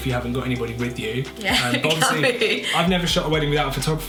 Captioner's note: laughs